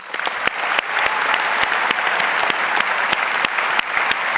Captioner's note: audience applauds